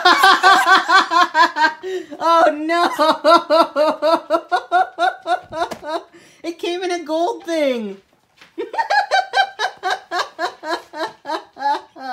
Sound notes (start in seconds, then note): 0.0 bursts into laughter; 2.7 more laughter; 8.5 both laughing, hard